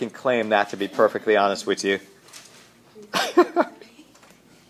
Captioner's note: laughter